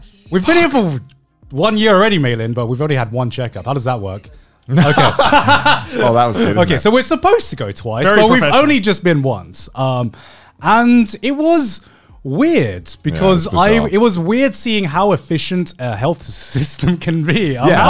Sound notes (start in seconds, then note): 4.7 laughing; 17.5 laughing